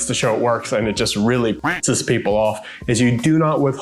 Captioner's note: duck quacks